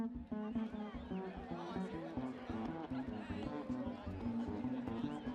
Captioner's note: people chattering